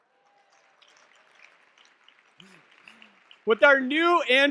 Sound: audience clapping

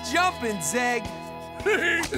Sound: laughing

